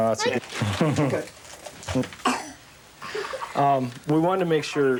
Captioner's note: laughing